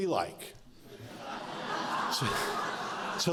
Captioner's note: laughter